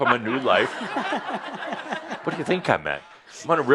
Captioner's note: laughter